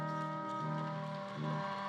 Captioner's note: audience claps and cheers